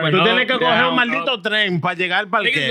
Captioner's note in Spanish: Hablando en idioma extranjero